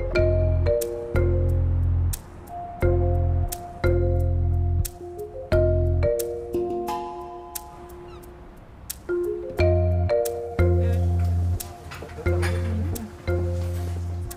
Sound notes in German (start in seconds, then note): 0.1 Abwartende Musik; 7.7 Möwengeschrei